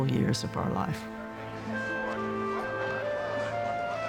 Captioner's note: indistinct crowd chatter